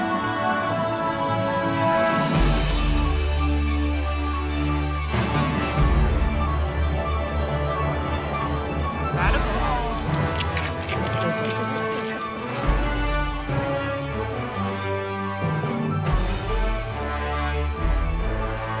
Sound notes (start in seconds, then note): 6.7 music intensifies; 9.3 claws scraping pavement; 13.5 dramatic music continues